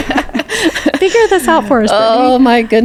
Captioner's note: both laughing